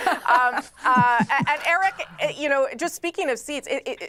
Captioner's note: laughter